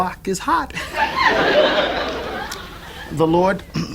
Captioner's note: audience laughs